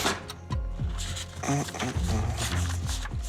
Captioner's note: hums to himself